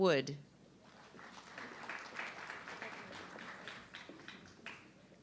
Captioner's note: audience clapping